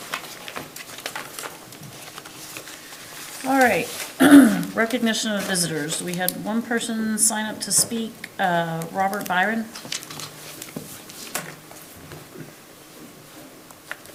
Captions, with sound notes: (papers shuffling) - All right, (clears throat) recognition of visitors. We have one person signed up to speak, Robert Byron. (paper rustling)